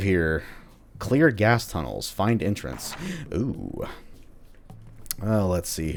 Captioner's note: journal closes